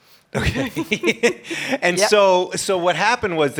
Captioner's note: laughs